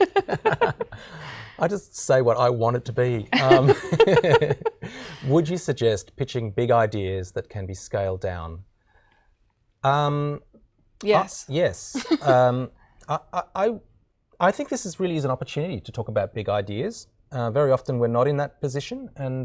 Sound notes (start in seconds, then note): 0.0 laughing; 3.4 laughing; 11.9 laughing